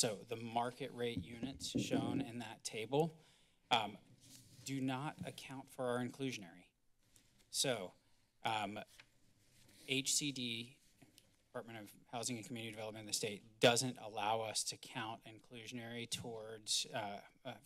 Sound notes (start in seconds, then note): none